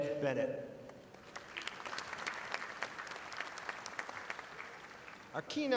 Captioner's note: audience applauding